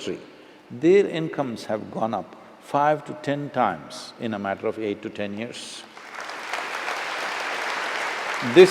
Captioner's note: applause